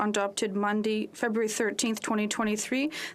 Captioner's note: speaking FRENCH